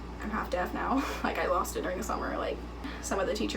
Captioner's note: chuckling